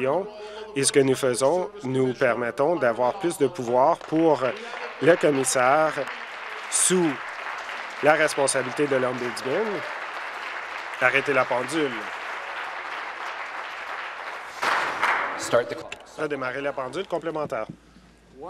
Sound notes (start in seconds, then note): 7.9 applause